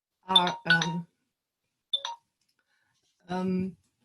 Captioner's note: ringer sound